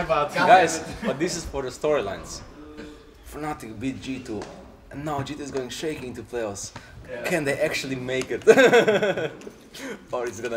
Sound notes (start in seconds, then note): 3.2 dramatically; 8.4 laughs